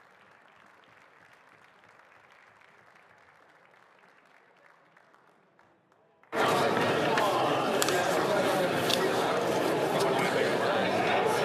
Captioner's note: some Applause